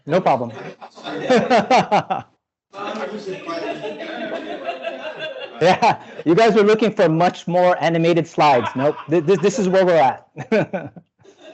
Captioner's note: laughs